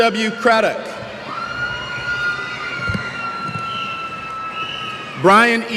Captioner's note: cheers